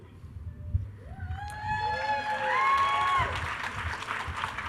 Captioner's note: attendees cheering